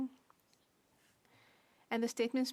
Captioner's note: speaking French